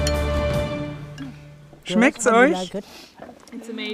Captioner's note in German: englisch